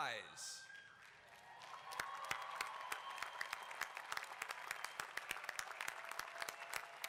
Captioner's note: applause